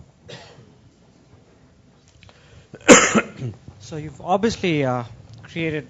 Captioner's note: cough